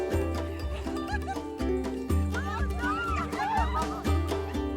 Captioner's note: guests laughing